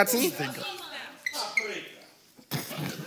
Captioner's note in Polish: krzyki publiczności